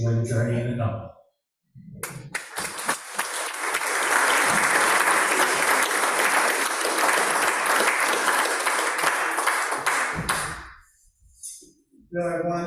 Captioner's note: applause